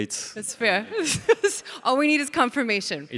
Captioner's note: laughs